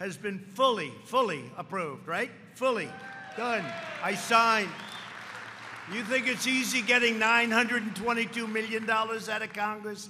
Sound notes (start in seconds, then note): 2.9 applause